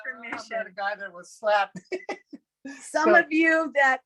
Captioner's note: laughing